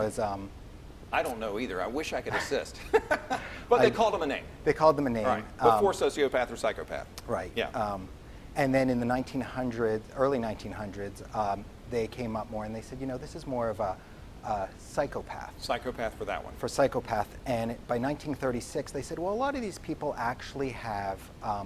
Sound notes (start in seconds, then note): 2.3 laughing